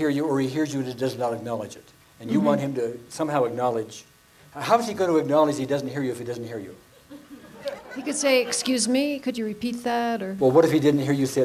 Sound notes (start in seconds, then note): 7.0 audience laughs